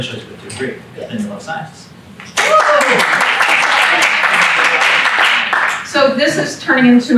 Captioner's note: applause